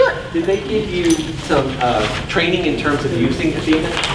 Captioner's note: voiceover